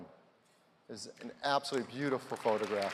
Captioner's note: applause